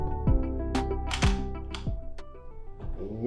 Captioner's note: sound of photo cliché